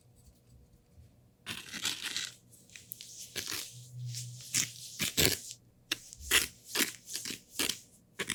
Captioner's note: scratch / Swish